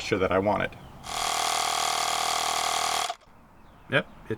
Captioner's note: buzzing